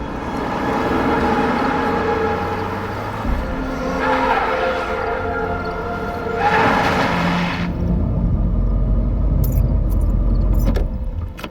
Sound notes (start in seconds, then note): 3.2 tires screech